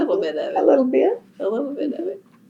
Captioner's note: laughs